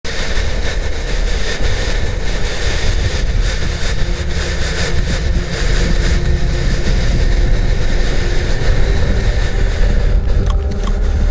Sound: heavy breathing; click-click

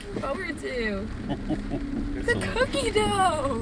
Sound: laughing

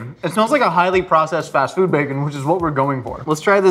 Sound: none

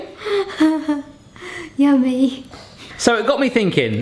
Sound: laughs

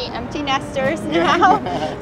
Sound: laugh

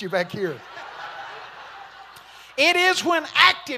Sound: congregation laughing

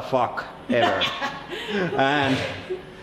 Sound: cackles

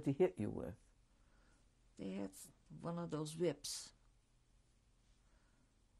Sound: pauses for 3 seconds

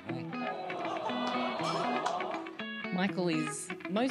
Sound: audience awwing

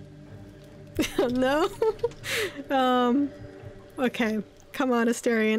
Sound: laughs

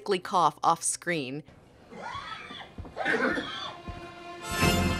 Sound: walt coughing and wheezing

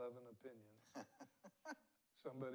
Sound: laughs

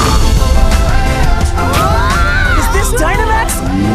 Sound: all scream

